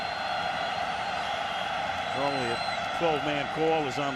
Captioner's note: cheering